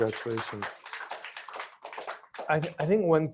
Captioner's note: applause